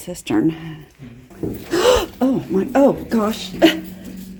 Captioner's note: gasp